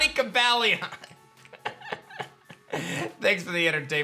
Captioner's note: laughs